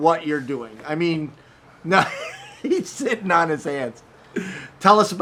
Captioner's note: laughing